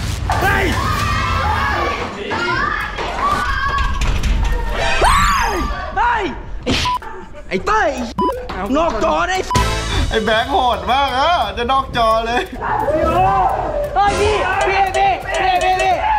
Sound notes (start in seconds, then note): 0.0 tense music playing; 0.2 yells; 0.3 screams; 2.6 screaming continues; 2.6 smashing; 4.6 screaming continues; 13.0 pat